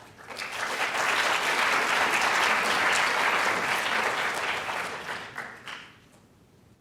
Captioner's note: applause